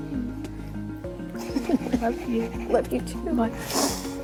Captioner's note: soft laugh